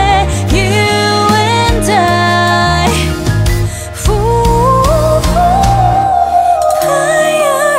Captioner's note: hoo~